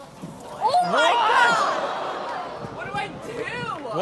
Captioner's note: audience gasps